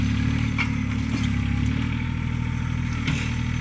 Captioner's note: engine revving